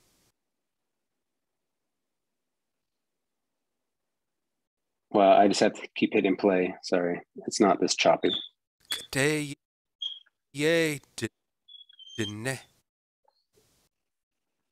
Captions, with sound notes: Well, I just have to keep hitting play. Sorry, it's not this choppy. (speaking in indigenous language)